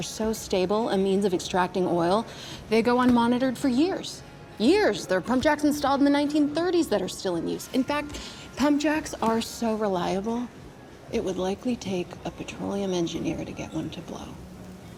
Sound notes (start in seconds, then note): none